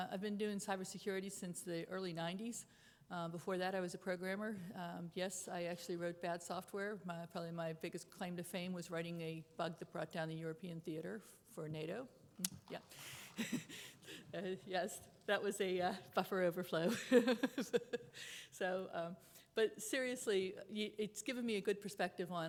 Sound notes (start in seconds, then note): 17.5 chuckles